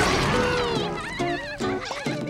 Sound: laughing

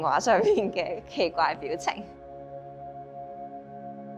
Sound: laughing

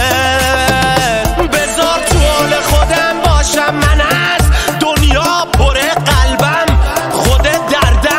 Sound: tired

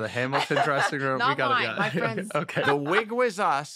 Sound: laughs

